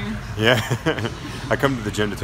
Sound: laughs

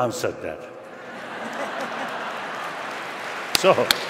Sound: laughter

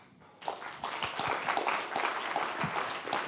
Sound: applause

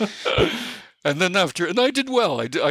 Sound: chuckle

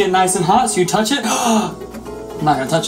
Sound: flaming gasp

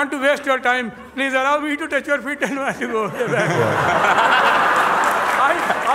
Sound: laughter

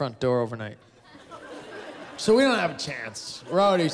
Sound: laughter

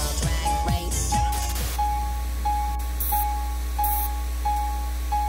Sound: static

